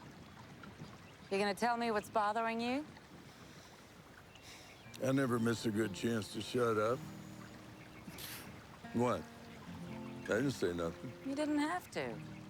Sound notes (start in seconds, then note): 4.8 scoffs